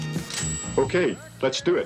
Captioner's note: typewriter dings